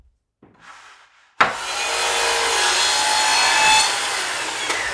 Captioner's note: saw whirring